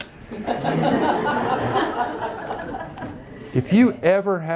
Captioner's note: audience laughing